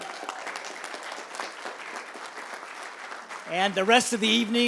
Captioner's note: applause